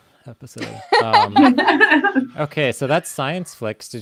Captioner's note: laughs